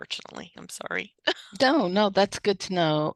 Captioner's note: laughs